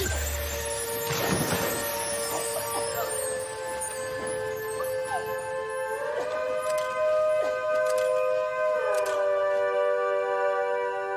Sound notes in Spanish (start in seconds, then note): 2.2 Toses; 4.7 Música intensa